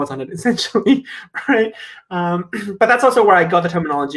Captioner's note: laughs